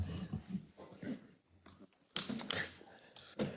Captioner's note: laugh